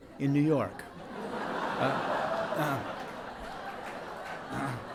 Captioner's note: audience laughs